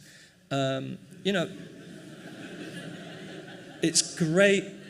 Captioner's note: laughing